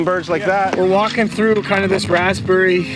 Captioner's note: gulls caw